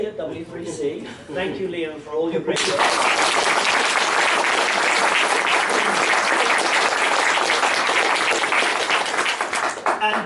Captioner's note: enthusiastic Applause